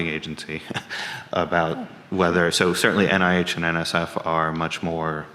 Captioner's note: chuckles